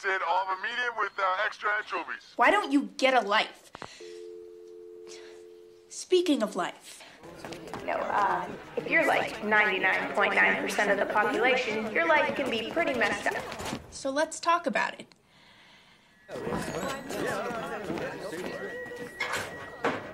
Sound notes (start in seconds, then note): 4.0 dial tone humming; 16.2 students chattering